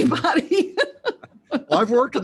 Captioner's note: laughs